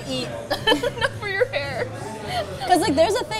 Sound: giggles

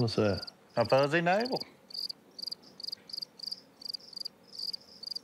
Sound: crickets chirping

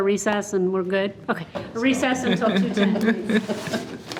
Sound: trustees laugh

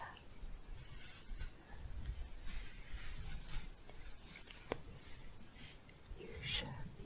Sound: shuffling

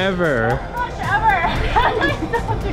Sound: laughs

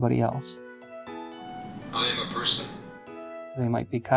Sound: synthesized male voice

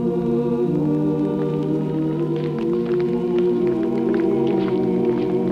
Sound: footsteps clatter

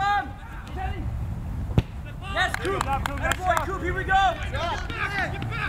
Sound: players talking and yelling

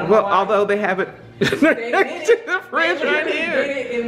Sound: laughs

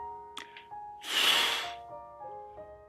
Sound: sound of air escaping in a whoosh

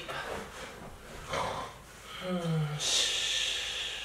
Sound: snoring

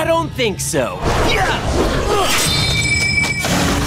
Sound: grunting

